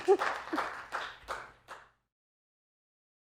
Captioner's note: laughs; applause